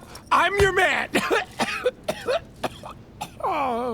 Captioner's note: coughing